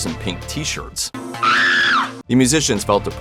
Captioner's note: screaming